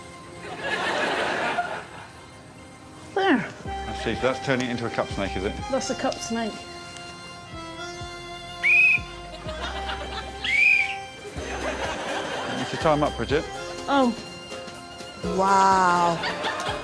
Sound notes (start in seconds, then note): 0.5 audience laughs; 8.5 whistle blows; 10.3 whistle blows